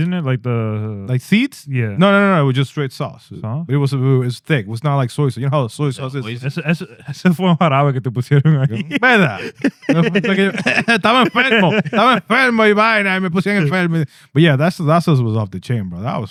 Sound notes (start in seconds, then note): 7.0 laughing; 7.0 speaking In Foreign Language